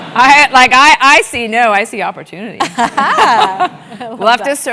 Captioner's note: laugh